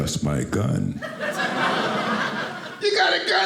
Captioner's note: audience laughing